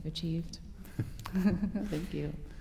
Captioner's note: laughter